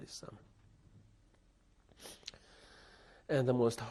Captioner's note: pauses for 3 seconds